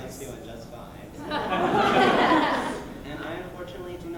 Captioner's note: laughter